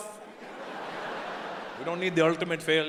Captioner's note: audience laughing